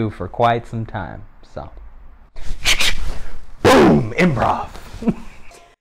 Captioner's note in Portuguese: som de tiro; risos